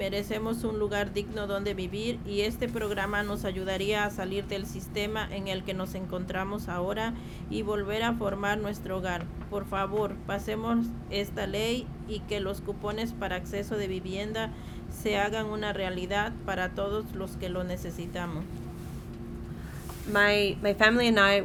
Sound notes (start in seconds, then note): 1.1 speaking spanish